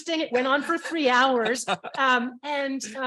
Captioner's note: panel member laughing